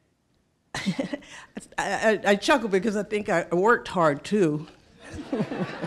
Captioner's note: chuckling